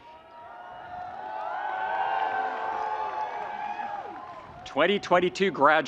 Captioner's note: students cheering and screaming